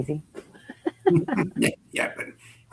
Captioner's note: chuckling